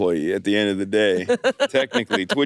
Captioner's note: laughs